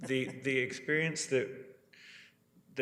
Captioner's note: laughs